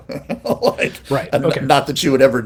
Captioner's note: laughs